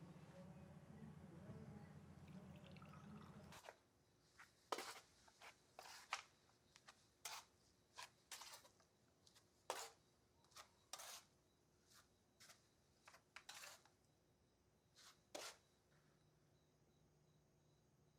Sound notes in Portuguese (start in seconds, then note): 5.4 chinelos arrastando